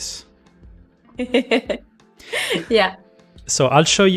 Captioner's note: laughs